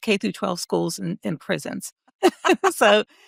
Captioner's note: laughing